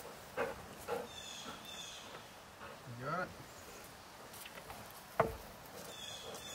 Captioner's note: dog panting